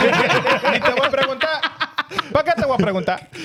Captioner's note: laughing; speaking In Foreign Language